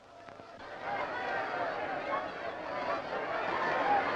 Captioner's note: group shouting